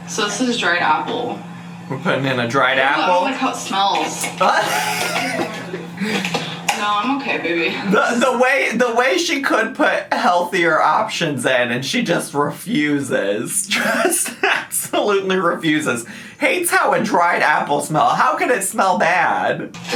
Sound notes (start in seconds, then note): 4.3 laughing